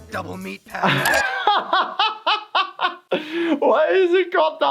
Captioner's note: laughs